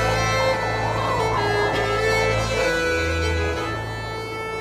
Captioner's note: wind howling